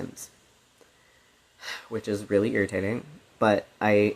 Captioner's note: sigh